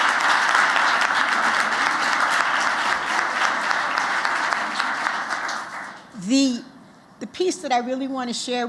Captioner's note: applause